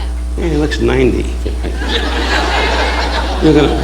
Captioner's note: audience laughing